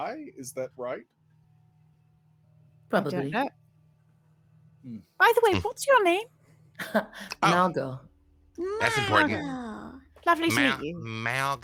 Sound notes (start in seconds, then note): 8.6 laughs